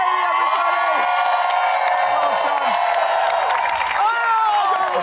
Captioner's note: crowd cheering